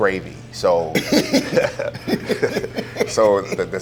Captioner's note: both laugh